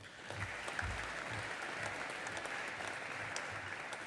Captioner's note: audience applauding